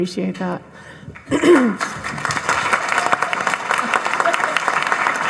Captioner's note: audience applauding